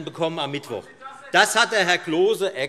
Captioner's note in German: Zurufe von der Regierungsbank